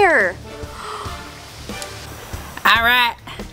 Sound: gasps

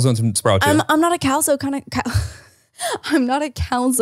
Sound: laughs

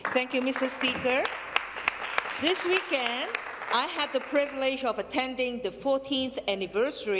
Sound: some Applause

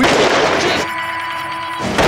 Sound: explosion; explosion

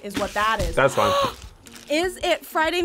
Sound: React gasps

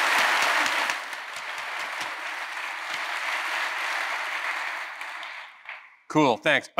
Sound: applause

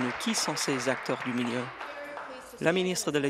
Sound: applause

